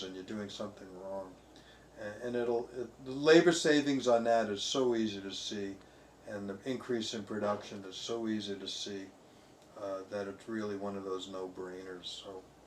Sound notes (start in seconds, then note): none